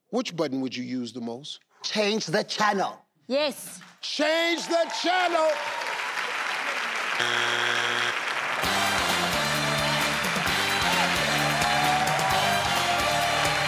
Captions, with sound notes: which button would you use the most? - Change the channel. - Yes. - Change the channel! (board honking) (audience clapping) (fast-paced upbeat music) (audience applauding)